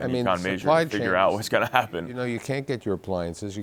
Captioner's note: chuckles